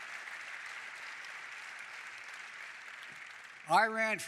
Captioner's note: applause